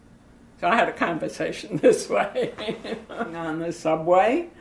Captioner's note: laughs